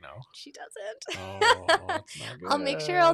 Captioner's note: laughs